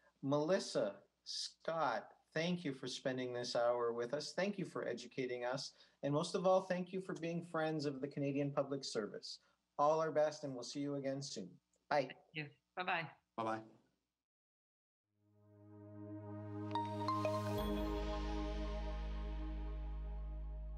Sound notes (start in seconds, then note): 16.6 logo chiming